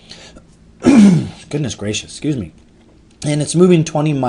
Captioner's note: throat clearing